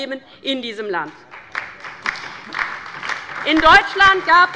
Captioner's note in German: Beifall bei der LINKEN und der SPD